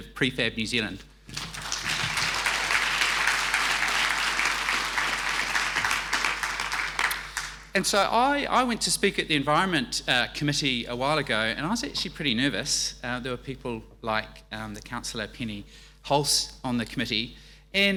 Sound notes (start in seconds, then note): 1.3 audience applauding